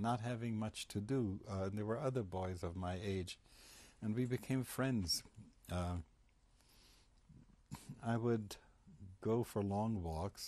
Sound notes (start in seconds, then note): 5.1 pauses for 3 seconds